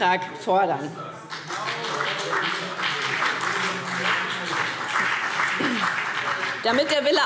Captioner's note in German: Beifall BÜNDNIS 90/DIE GRÜNEN und CDU